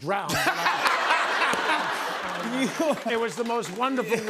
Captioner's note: laughter